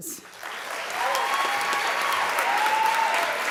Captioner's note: applause